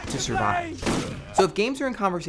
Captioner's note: yelling